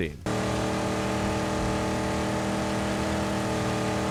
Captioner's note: car engine roars